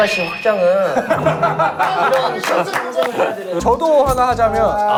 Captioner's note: cheerful Applause